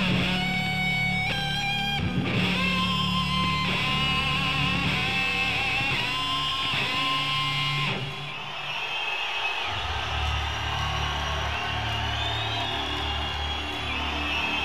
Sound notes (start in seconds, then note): 8.8 audience cheering